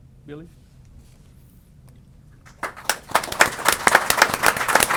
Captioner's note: applause